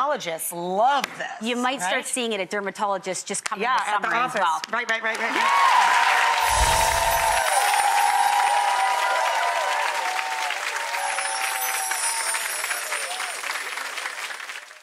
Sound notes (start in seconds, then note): 5.6 cheering and clapping; 6.4 chimes ring; 10.7 chimes ring